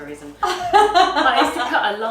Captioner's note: laughs